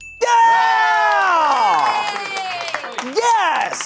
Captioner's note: bell dings; audience applauding